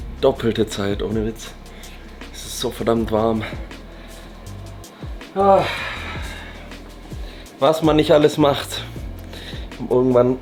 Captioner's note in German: seufzt